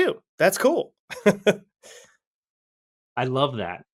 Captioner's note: laughs